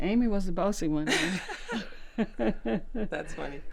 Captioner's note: laughter